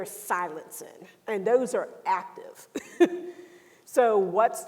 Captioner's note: laughs